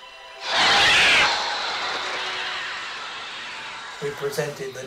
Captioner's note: birds screeching